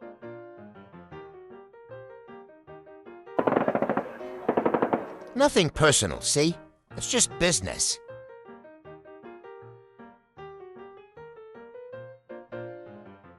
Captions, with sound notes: [gunshots] "Nothing personal, see. It's just business."